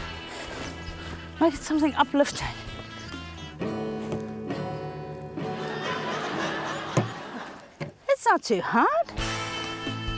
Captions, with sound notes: Make it something uplifting. - (STRUMS CHORD) (LAUGHTER) - That's not too hard.